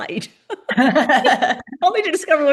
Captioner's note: laughter